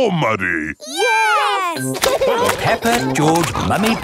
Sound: laughing

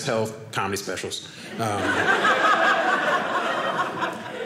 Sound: audience laughing

